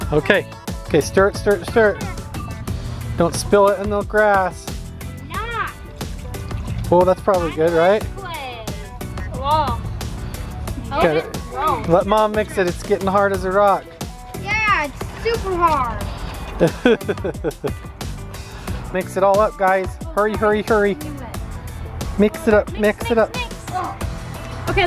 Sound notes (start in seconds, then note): 16.6 laughs